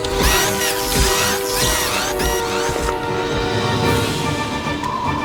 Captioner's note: alarm blares and beeps; robot whirring frantically; robot whirs frantically; heavy foot falls; uplifting dramatic music